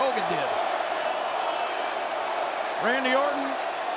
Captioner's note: crowd cheering